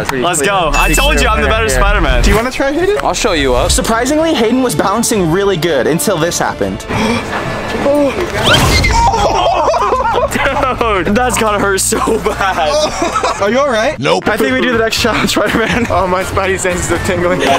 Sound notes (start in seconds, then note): 12.7 cries in pain